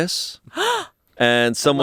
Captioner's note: gasps